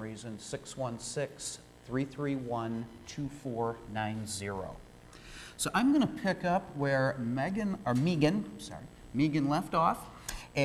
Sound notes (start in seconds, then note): none